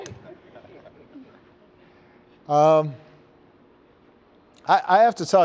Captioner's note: laughter